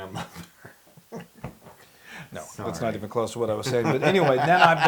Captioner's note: laugh